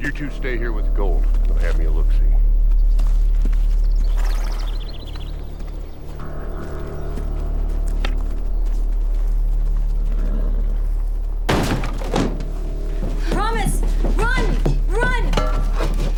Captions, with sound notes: I'm gonna have me a looksie. (door busts open) - Promise, run, run! - Oh hell, lady, you gotta be kidding!